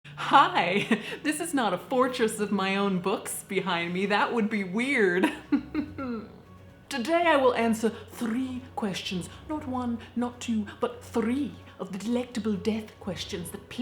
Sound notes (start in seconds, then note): 0.6 chuckles; 5.2 laughs